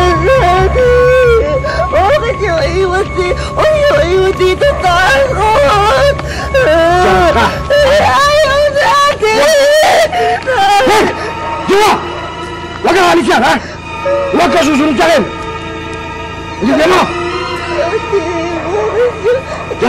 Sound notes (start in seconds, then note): 6.2 cries; 14.0 whines